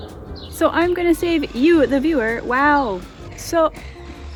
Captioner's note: sirens; power tools start; power tools